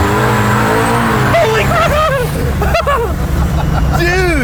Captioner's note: squealing in excitement; both laughing hard